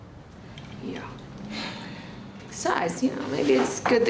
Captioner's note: sighs